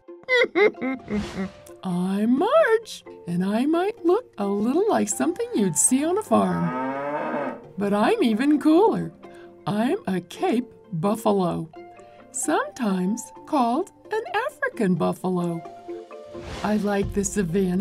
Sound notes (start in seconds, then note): 0.2 laughs; 6.1 mooing